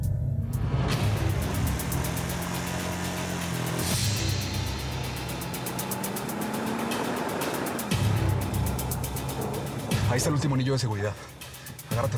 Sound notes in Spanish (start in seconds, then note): 0.1 ruido de la motocicleta; 3.3 ruido del vehículo